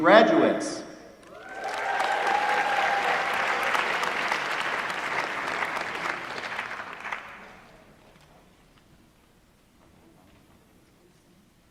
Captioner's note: applause